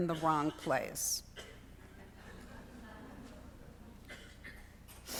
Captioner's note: students laughing